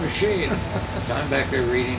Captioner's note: laughs